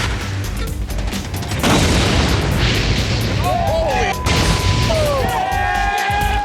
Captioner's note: cheers and applause